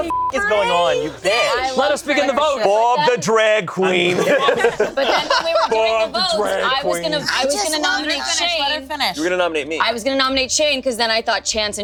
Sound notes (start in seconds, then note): 0.0 beep; 4.2 group laughing